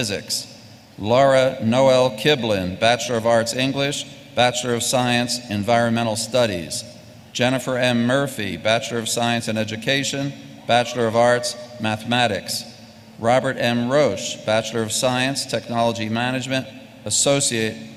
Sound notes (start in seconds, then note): none